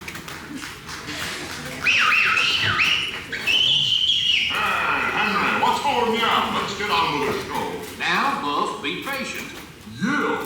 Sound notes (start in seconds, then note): 1.7 whistles